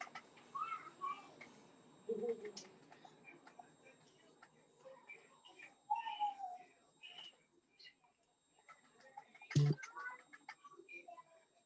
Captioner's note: kids chatter